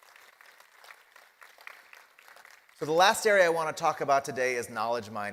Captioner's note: applause